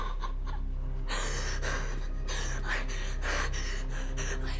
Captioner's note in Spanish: Robyn sollozando; hiperventilando